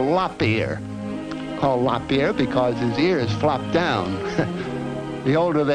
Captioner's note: chuckles